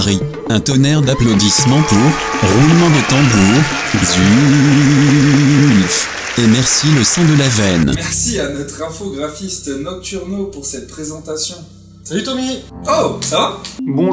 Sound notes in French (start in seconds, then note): 4.8 applaudissements